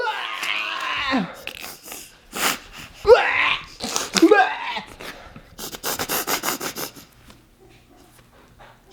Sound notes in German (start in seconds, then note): 1.5 lacht; 6.0 lacht